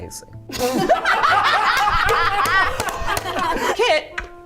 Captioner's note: laughter and bell dinging